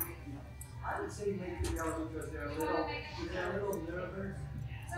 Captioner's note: employees chattering